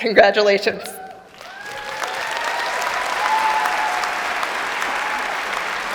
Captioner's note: applause and cheering